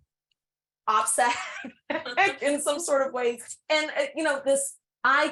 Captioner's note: laughs